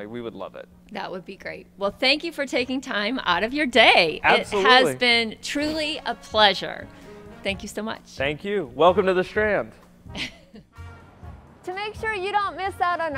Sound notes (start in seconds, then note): 10.1 laughs